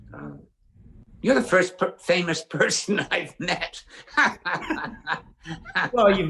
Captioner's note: laughs